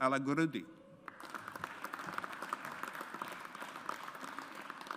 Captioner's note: audience applauds